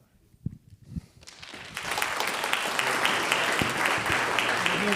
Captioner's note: audience applauding